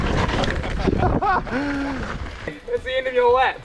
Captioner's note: both laugh; laughs